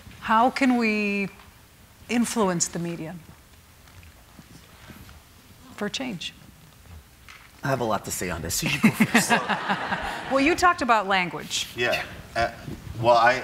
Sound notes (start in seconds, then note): 8.7 audience laughing